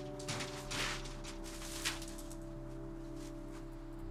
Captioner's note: soft music continues; bike rattling